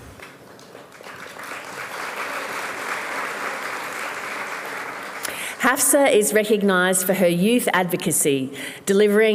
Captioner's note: applause